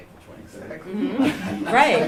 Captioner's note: laughter